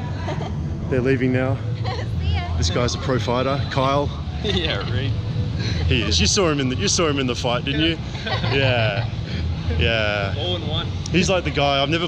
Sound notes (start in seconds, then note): 1.8 woman laughs; 7.7 laughter